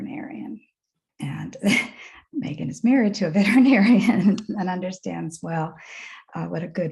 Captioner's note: chuckles